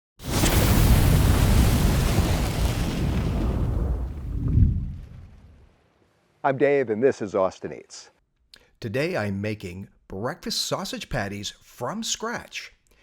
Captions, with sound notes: (fire crackling) - I'm Dave, and this is Austin Eats. Today, I'm making breakfast sausage patties from scratch.